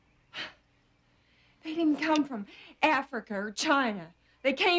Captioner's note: sighs